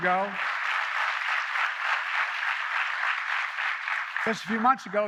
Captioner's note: applause